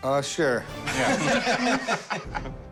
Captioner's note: laughter